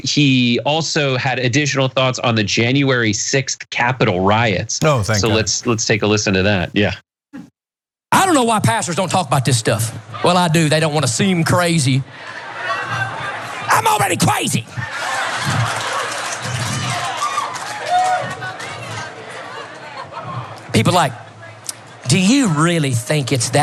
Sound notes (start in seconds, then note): 12.1 laugh; 15.4 applause